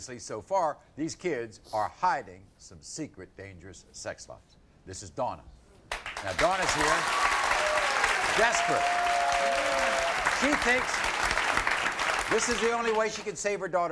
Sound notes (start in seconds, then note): 5.8 audience cheering